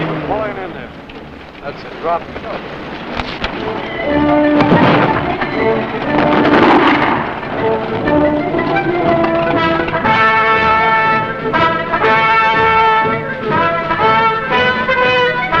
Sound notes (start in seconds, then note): 4.0 jeep engine humming; 9.4 shells exploding; 9.4 victorious music